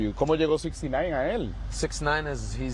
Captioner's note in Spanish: HABLA EN INGLéS